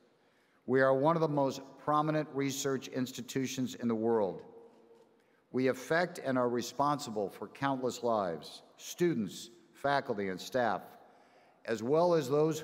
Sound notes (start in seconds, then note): none